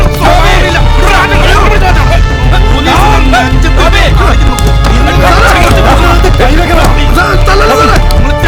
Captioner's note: indistinct chatters